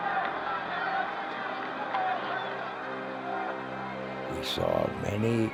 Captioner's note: crowd clamoring